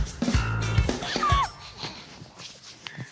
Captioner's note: exclaims; chuckles